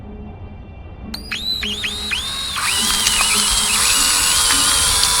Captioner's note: drill buzzing